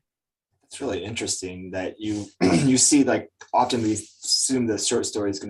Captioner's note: clears throat